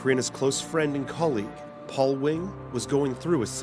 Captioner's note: voiceover